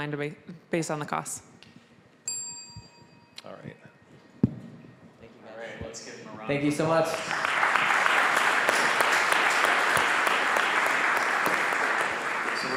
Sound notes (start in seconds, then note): 2.2 bell dings; 7.0 applause